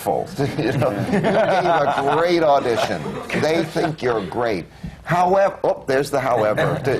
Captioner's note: laughter